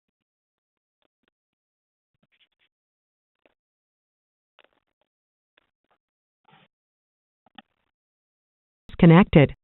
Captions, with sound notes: - [Computer Voice] chairperson has disconnected